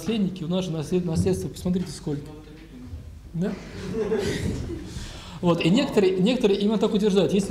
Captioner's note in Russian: смех